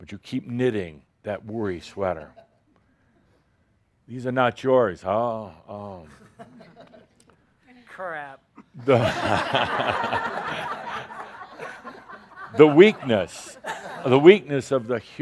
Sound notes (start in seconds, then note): 12.7 laughter